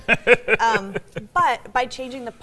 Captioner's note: laughs